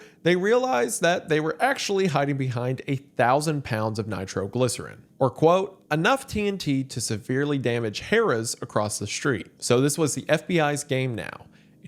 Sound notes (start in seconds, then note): none